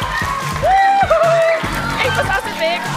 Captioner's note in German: Klatschen